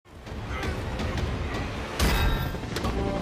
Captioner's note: dramatic instrumental music; Sam grunting; shield clanging